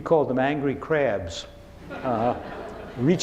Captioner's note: laughing